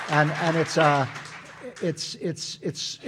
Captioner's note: audience applauding